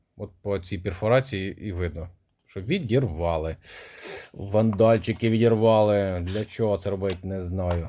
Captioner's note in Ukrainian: сопіння